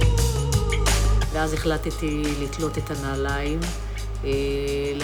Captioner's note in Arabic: الصوت المنطوق باللغة الأجنبية